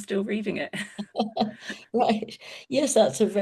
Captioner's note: laughs